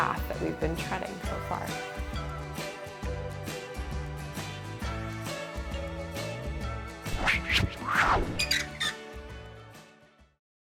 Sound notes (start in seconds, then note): 2.9 bright music; 7.0 whoosh; 8.3 hinge squeaking